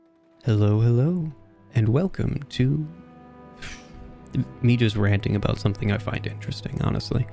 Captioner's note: exhale